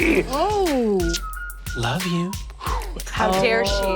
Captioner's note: smooches